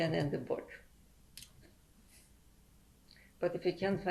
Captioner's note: pauses for 3 seconds